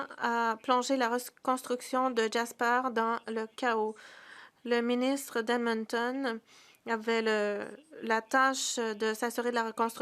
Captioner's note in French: voix de l'interprète